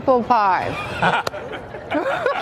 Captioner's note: laughing